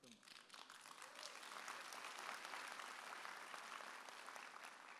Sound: audience applauding

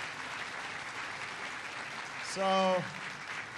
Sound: applause

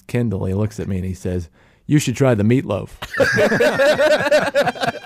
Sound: laughs

